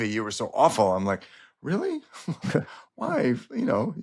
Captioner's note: chuckles